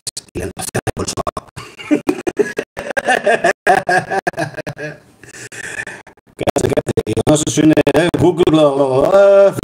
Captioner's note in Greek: γέλια